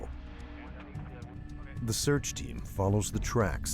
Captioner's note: voiceover